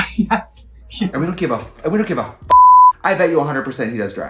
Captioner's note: beep